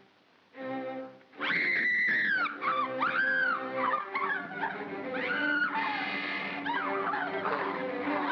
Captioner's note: Bo Peep screams; ominous music; Barnaby growls; ominous music